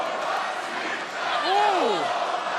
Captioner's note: crowd chants "let's go, lola"; crowd chants "let's go, roxy"